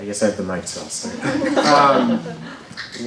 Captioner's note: laughter